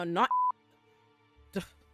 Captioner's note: beep